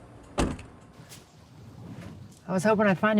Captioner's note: door thuds